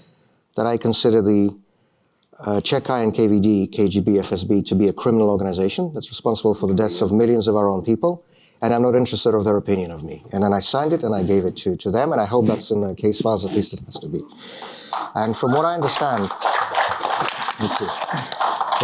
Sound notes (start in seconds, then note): 16.1 applause